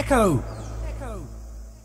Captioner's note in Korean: 메아리